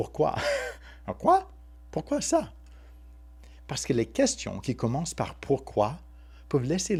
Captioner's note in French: rires